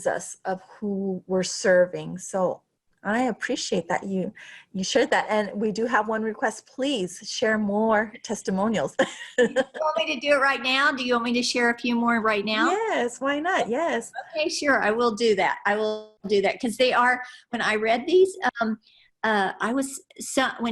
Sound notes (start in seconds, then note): 9.1 laughs